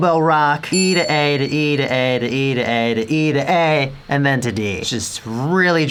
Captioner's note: ding